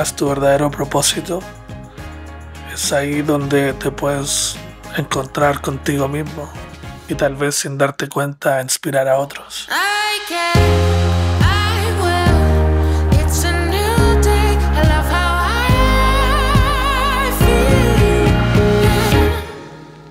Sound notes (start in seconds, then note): 7.2 narrator continues to speak Spanish